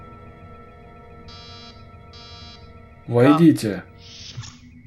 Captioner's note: door chime